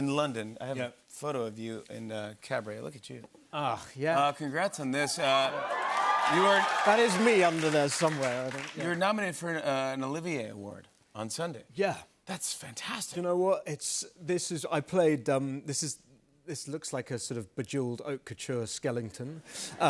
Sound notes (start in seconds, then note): 5.0 cheers and applause